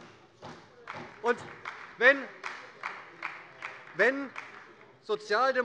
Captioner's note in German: Beifall bei Abgeordneten der SPD